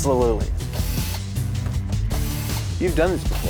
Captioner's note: drilling